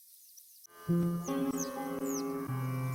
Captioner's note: birds chirping